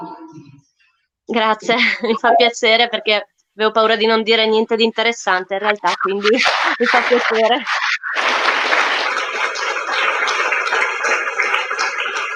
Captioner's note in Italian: Applauso